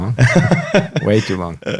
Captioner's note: laughs